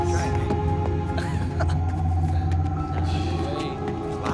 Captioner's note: laughter